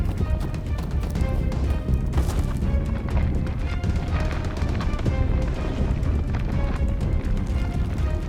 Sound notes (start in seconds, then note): 1.6 body thuds